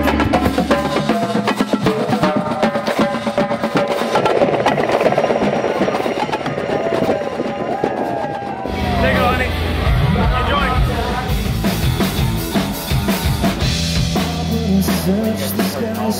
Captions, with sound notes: (marching band drumming) (helicopter humming) (cheering) - There you go, honey. Enjoy. (uptempo rock music)